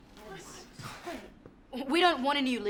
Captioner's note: crowd murmuring